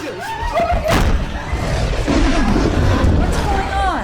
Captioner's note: door slams; Brad growling